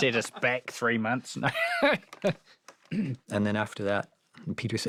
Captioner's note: laughing